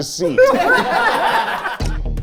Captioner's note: all laughing; dramatic music